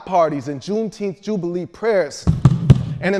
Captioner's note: feet stomping